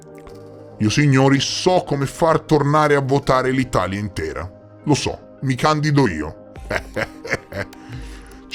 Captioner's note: ehehehehehhe